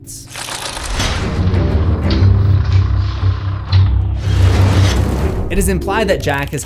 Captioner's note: impact